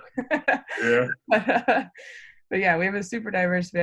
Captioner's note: laughs